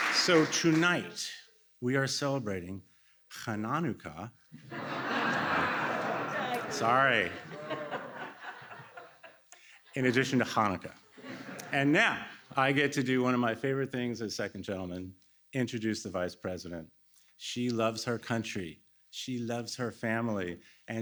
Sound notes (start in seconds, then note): 4.5 laughter